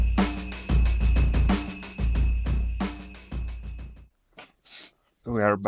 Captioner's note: upbeat music; crickets chirping; sniffs